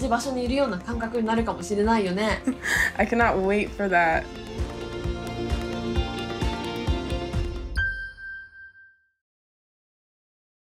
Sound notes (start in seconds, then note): 4.2 upbeat music; 7.8 ding reverberates